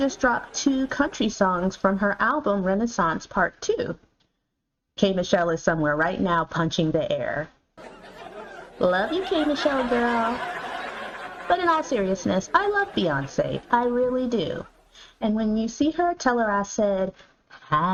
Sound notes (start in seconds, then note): 7.8 audience laughter; 8.0 drum roll